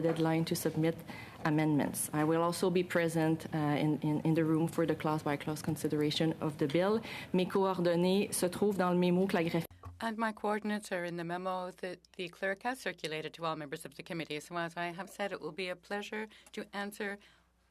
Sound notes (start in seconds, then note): 12.2 speaking French